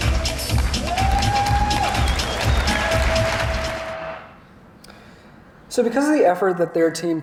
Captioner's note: applause